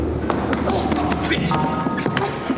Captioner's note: Natalie grunting